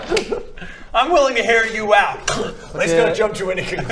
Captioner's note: clrkk